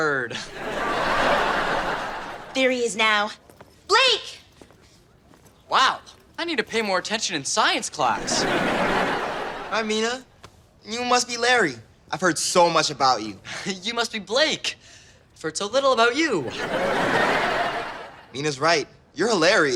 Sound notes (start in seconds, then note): 0.3 audience laughter; 8.1 audience laughter; 16.4 audience laughter